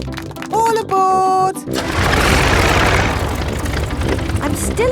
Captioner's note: plane engine starts